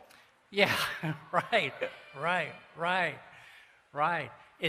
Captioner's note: laughs